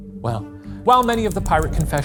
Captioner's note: typewriter clicking